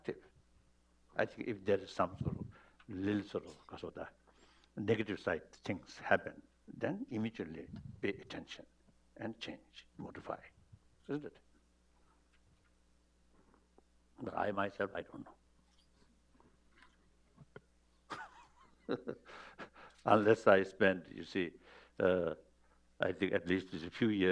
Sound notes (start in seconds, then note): 18.0 laughs